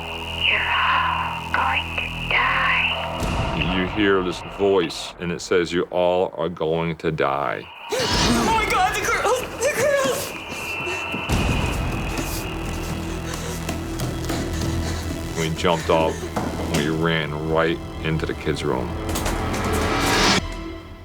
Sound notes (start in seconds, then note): 7.5 gasps; 10.9 dramatic music